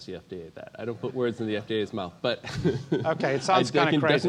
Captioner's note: laugh